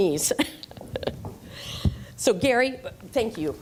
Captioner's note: laughter